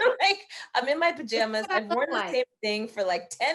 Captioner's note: laughing